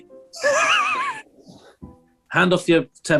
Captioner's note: sniggering